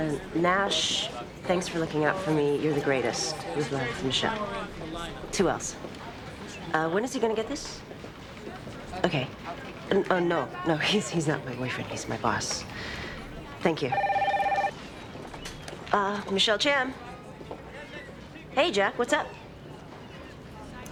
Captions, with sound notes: Uh, "Nash, thanks for looking out for me. You're the greatest. With love, Michelle." Two Ls. Uh, when is he gonna get this? Okay. No, no, he's not my boyfriend, he's my boss. Thank you. (phone ringing) Uh, Michelle Chan. Hey, Jack, what's up?